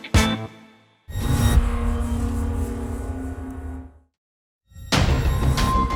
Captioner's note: electronic swoosh; eerie music